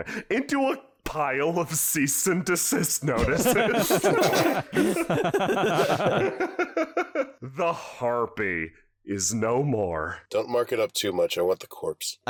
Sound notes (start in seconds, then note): 3.1 3W and Spare chuckle